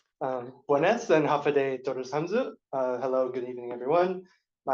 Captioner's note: non-english speech